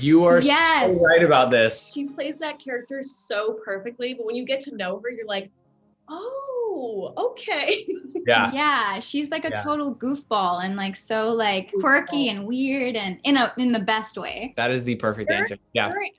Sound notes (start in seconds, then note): 8.2 Joey laughs